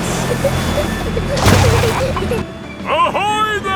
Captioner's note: peppa and george giggling